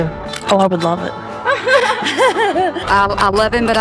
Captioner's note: laughter